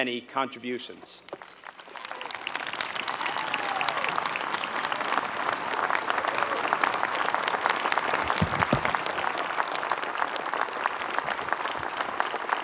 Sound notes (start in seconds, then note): 1.2 applause